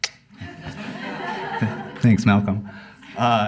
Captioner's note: laughter